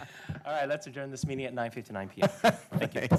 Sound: laughter

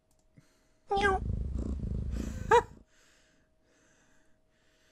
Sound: jess meows

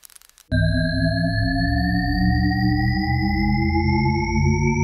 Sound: variable frequency humming

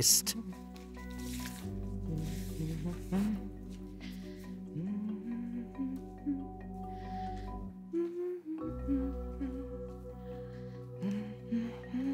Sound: humming

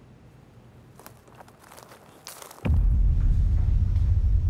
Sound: footsteps approaching

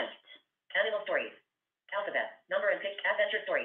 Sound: VoiceOver voice

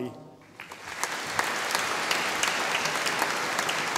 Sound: audience applauding

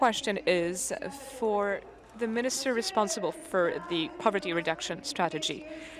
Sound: speaking in French

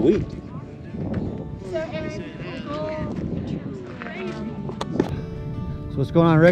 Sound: wind howling

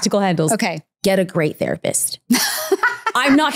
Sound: laughing

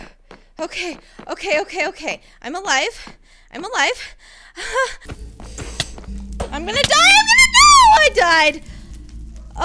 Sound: laughs

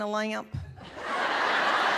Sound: laughter

